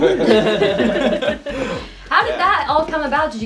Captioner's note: laughing